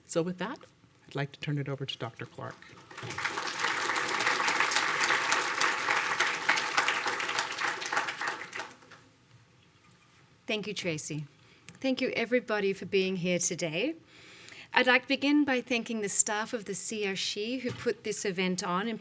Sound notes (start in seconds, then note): 2.4 audience applauding